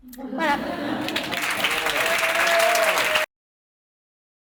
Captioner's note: applause